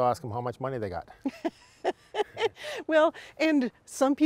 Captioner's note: laughs